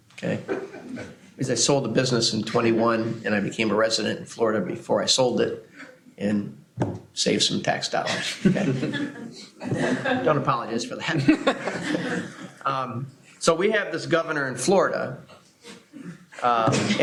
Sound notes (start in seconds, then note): 8.0 laughter